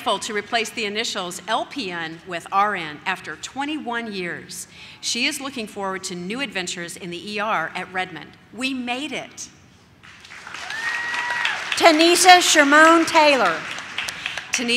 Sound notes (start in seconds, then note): 10.0 audience claps